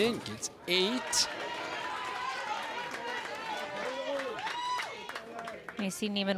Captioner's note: crowd cheers and applauds